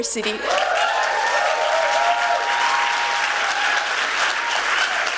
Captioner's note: applause